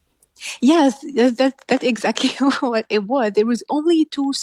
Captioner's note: laughs